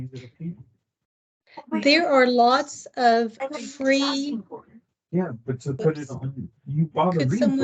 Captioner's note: mic noise